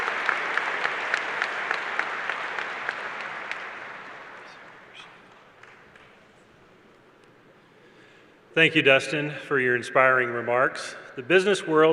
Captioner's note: applause